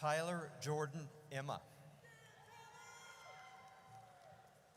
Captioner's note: audience cheers